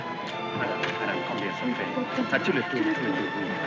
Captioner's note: both speaking french